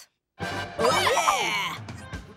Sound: cheering

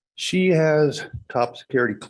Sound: none

